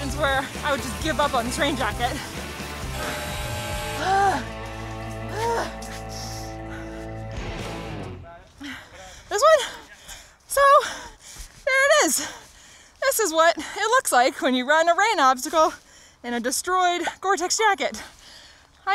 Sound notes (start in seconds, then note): 2.6 timer buzzing; 4.0 breathing heavily